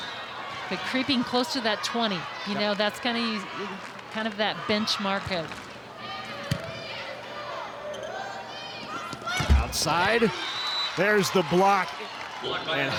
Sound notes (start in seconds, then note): 6.5 ball thumping; 7.2 players shouting indistinctly